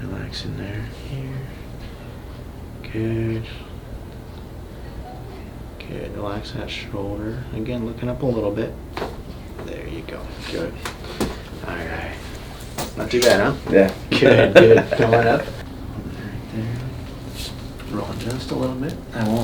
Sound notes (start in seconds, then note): 9.0 neck cracks; 14.0 laughs